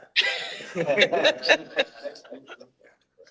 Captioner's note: all laughing